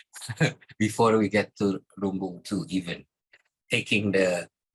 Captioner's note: laughs